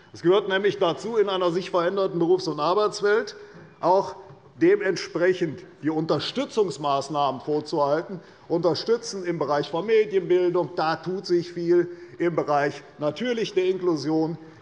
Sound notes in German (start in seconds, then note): none